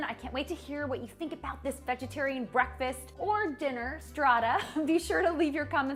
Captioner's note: chuckles